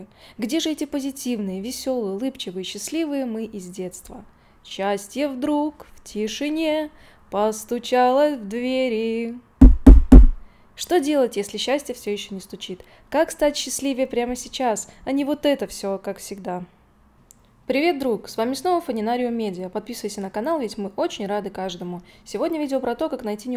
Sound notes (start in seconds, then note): 9.6 knock